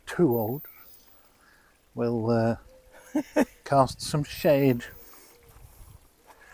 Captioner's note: laughs